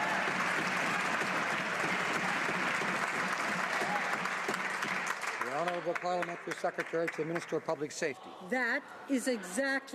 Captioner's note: some Applause